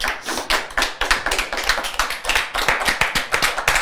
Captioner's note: clapping